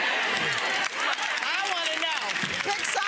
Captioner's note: clapping